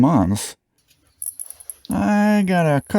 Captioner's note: fluorescent light sound